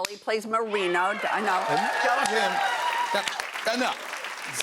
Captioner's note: cheers and applause